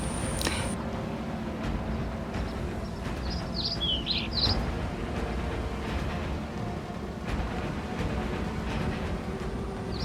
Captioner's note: distant wind rustling the thick swamp brush